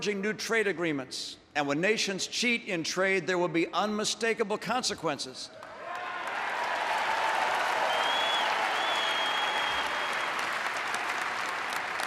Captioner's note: applause